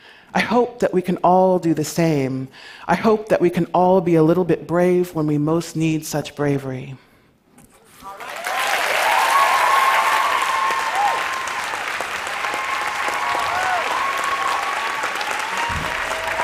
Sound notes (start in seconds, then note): 8.0 applause